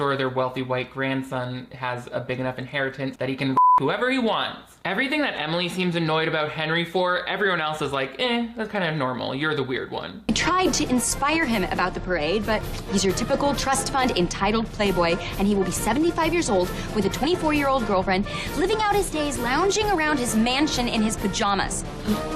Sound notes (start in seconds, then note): 3.6 beeps